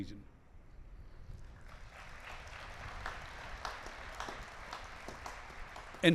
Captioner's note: applause